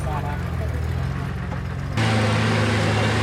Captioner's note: dune buggy engine revving